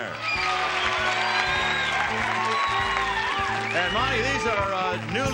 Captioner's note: applause and cheering